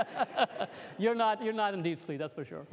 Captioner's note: laughter